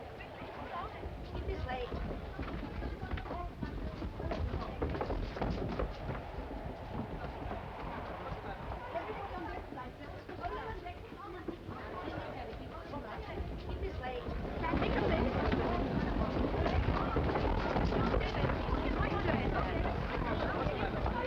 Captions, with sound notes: Everyone on deck with life belts. Come on, quickly. Everybody on deck with life belts. Quickly. (people murmuring) Everybody on deck with life belts. Everybody on deck. Come on, quickly. Please, this way. (people murmuring)